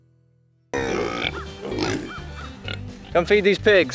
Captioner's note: pigs oinking